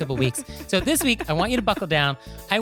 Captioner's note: giggling